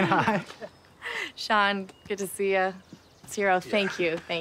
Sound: laughing

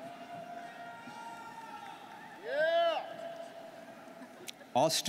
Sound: students cheering

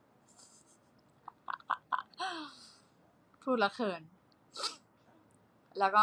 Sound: laughing

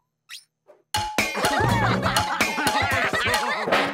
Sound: cheering

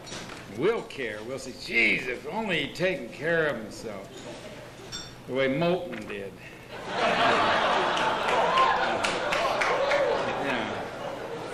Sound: laughter

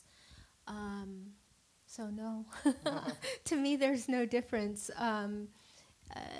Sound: laughs

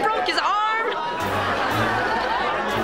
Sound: laughing

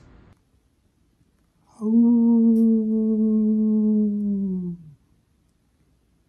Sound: howls

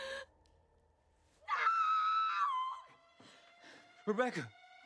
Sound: woman screams hysterically

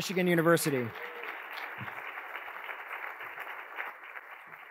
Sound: attendees applauding

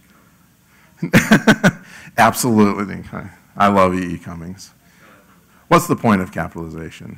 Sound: laugh

